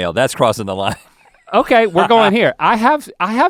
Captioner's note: Rhett laughing